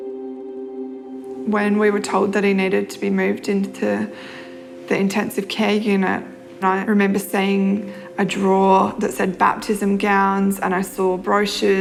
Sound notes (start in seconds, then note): none